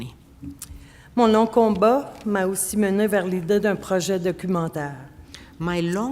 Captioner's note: speaking French